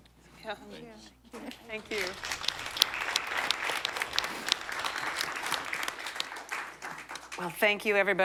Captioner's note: applause